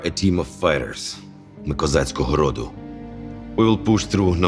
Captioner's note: in Ukrainian